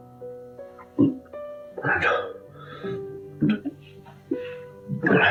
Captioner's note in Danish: bøvser